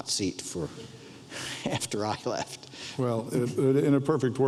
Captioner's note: laughs